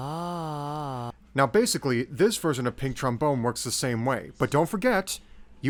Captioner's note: voicebox noises cease